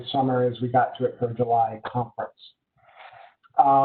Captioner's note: murmurs